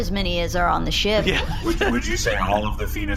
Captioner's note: Pleck laughs